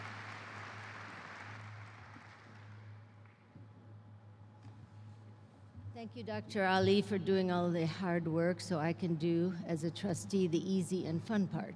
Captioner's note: applause